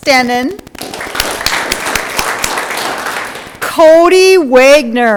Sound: audience clapping

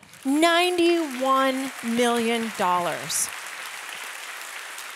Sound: audience applauding

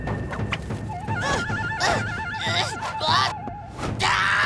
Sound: grunting

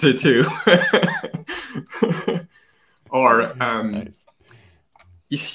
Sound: laughs

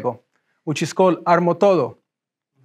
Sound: speaks in foreign language

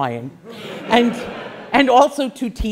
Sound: class laughs

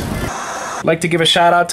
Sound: static hissing

